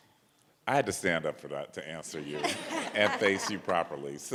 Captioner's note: audience laughs